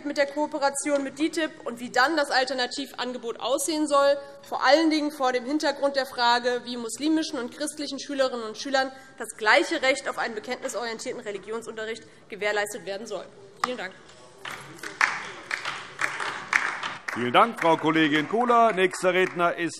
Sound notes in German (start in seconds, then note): 14.4 Beifall DIE LINKE